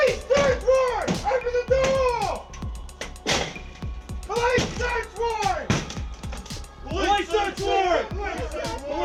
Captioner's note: banging